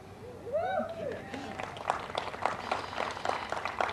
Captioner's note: applause